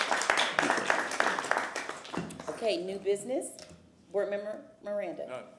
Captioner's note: applause